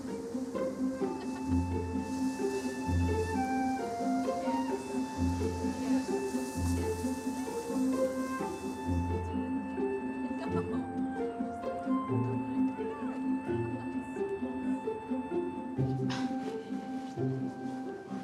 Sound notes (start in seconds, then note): 0.6 people laughing